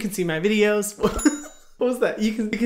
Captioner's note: laughs